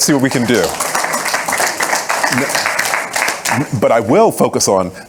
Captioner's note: audience applauding